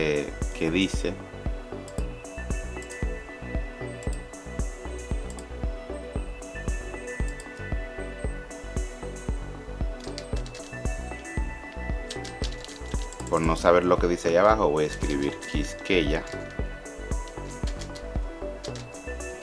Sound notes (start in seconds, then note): 1.4 a lot of clicks and some typing; 16.6 typing